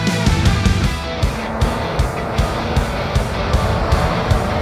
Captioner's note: rock music continues; engine rumbling